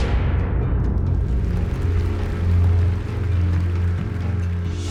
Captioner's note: applause